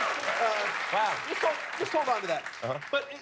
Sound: cheers and applause

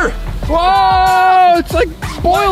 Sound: yelling

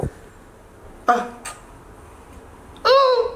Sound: lips clicking

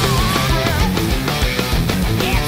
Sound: moaning

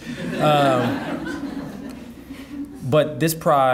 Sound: audience laughing

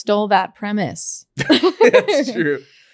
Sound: laughing

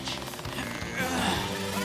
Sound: grunting

